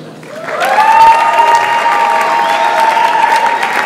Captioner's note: audience applauds